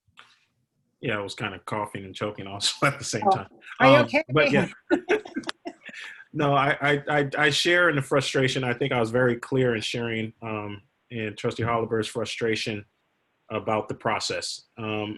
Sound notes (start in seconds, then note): 4.4 laughter